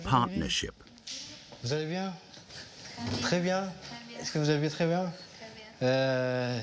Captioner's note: both speaking foreign language